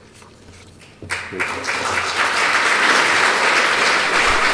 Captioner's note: applause